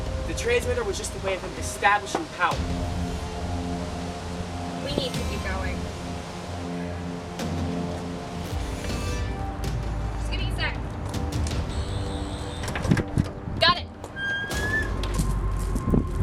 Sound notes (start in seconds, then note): 11.6 sonic screwdriver buzzing; 12.6 lock disengages